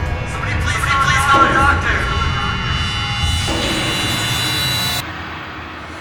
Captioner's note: eerie noises; ghostly Voice; eerie noises